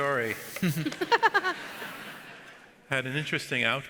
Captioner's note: audience laughs